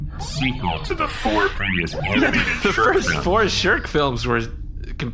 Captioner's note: laughing